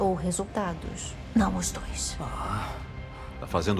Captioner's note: whispers; scoffs